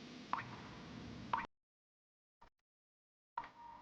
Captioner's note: water dripping